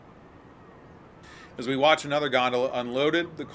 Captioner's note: siren